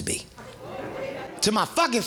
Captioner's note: audience murmuring